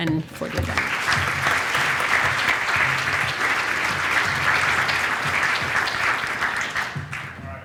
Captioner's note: applause